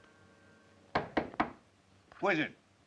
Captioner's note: door knocks